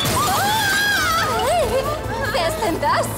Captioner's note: glass shattering